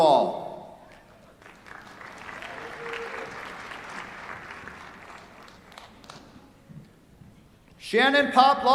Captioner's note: applause